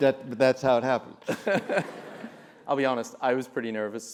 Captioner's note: laugh